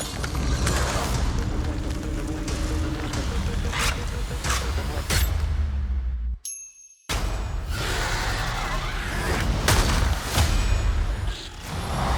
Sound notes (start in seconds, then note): 0.0 suspenseful music; 7.7 roars